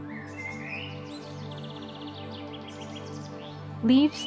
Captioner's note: birds chirping